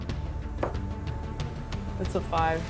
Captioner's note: dice clunks